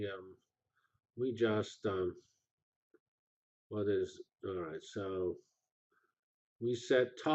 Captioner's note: pause